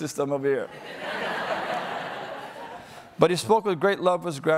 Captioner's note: audience laughing